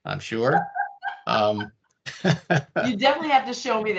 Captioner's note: laughing